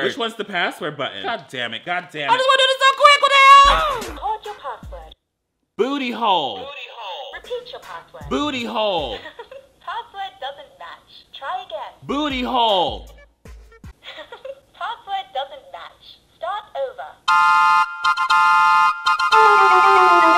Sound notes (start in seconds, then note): 9.0 laughs; 14.0 laughs; 17.3 clown music